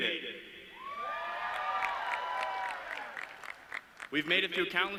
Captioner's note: audience cheering